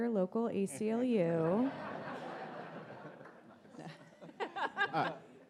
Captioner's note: audience laughs